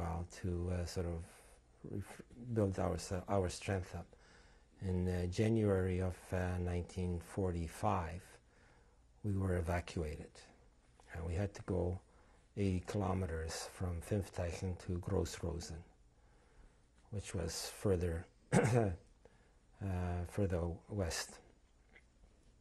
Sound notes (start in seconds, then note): 18.5 clears throat